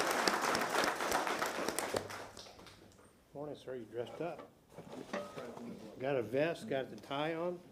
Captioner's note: applause